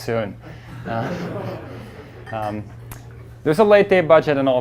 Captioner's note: class murmurs